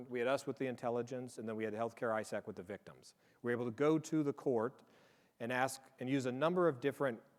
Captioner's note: none